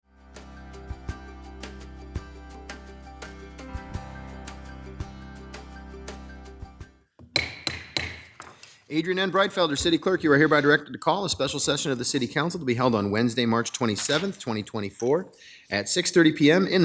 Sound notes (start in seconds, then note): 0.3 upbeat music; 7.3 gavel banging